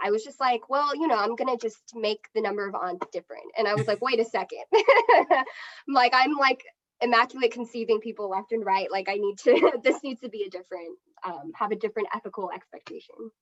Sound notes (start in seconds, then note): 3.7 chuckles